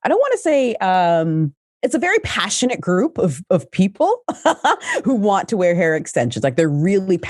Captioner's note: laughs